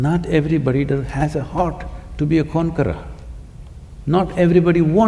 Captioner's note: none